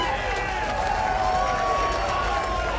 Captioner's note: audience cheering